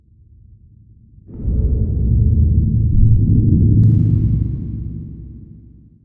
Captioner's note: deep booming sound